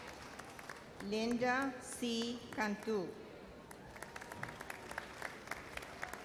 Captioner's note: audience applauds